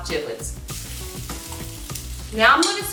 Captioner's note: pan sizzling